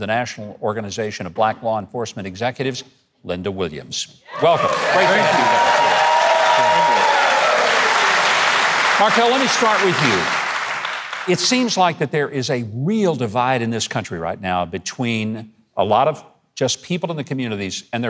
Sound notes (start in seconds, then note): 4.3 crowd cheering